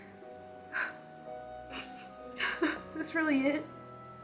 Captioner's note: sniffles